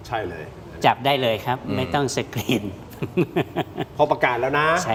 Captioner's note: laughs